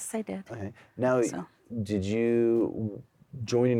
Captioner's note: none